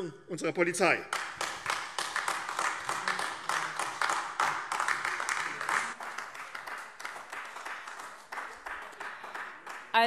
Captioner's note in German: Beifall AfD